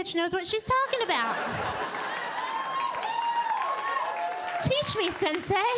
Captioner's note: audience laughing